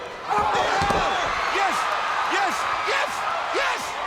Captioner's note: crowd cheering